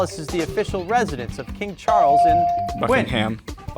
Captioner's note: bell rings